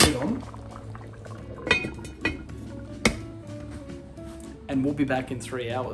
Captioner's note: light metallic clanking